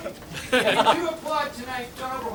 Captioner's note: choir members laughing